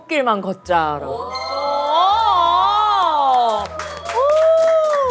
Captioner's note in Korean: 감동의 박수갈채